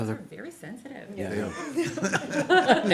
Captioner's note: laughter